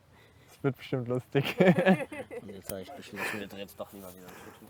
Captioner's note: laughter